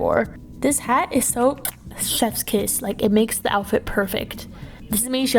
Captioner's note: smooch